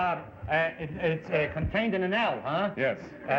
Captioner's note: stammering